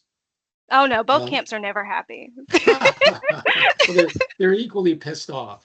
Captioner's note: laughing